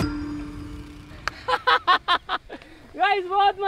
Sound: laughing

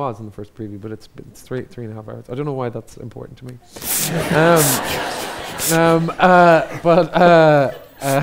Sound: audience laughs

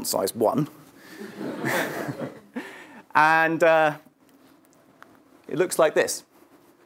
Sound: laugh

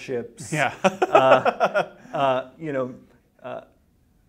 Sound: interviewer laughs

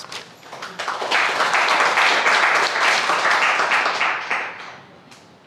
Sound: crowd applauding

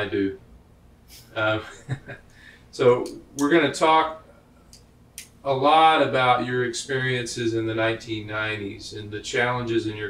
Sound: laughs

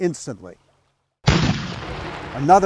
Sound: cannons blasting

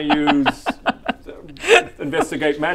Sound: risky laughter

